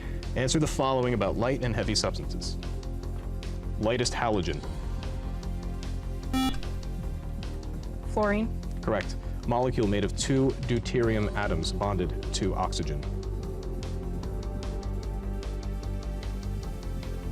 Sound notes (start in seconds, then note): 6.3 buzzer